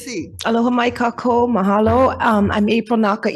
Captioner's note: speaks in foreign language